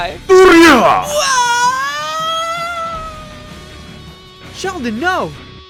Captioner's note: screaming